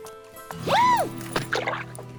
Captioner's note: scoffs; yelps